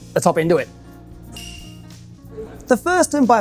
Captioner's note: bell dings